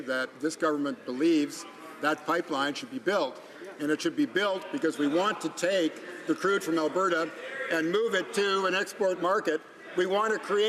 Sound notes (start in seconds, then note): none